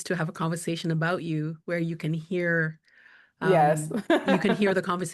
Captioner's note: laughing